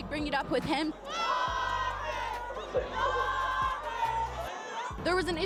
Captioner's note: cheering